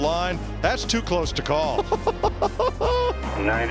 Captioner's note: laughing